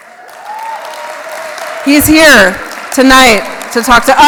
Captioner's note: applause